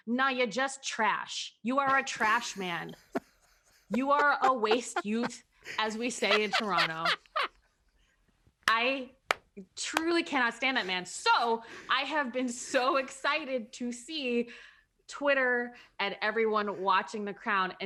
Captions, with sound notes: no, you're just trash. You are a trash man. (laughs) - You are a waste youth as we say in Toronto. (clapping) I truly cannot stand that man. So, I have been so excited to see Twitter and everyone watching The Crown